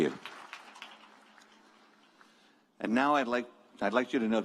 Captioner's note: applause